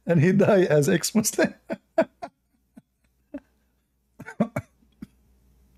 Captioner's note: Ketawa